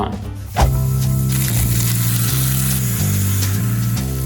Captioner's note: sizzling sound